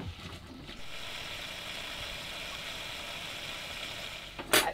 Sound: sizzling

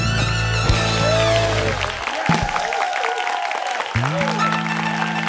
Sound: applause

